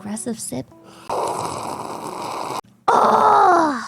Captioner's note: slurping